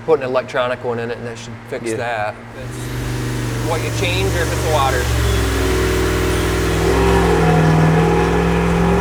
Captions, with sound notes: Put an electronic one in it and that should fix that. That's what you change or if it's water. (engine revving)